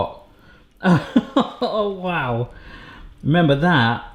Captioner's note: laughs